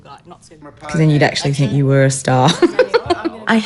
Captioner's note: laughs